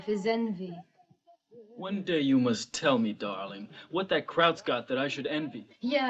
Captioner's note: german